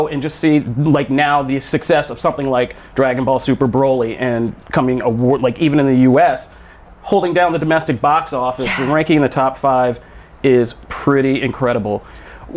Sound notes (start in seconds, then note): 8.4 gasps